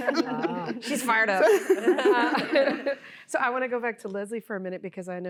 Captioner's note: laughter